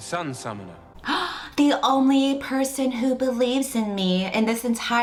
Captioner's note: gasps